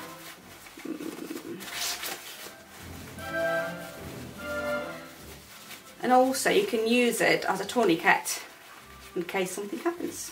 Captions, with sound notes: (fabric rustling) And also you can use it as a tourniquet in case something happens.